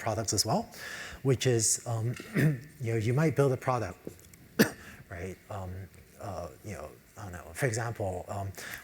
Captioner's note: cough; cough